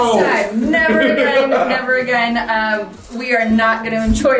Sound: laughs

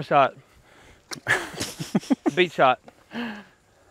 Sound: chuckle

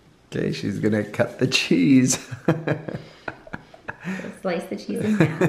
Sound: laughs

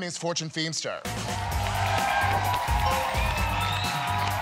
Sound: cheers and applause

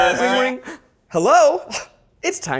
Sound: gasps

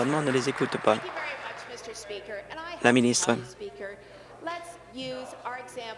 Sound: applause

